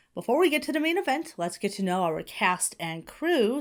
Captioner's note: none